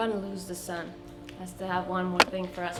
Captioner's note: rock pounding as hammer